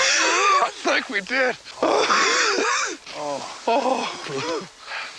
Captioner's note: both gasping; laughs